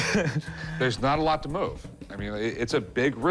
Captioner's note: chuckles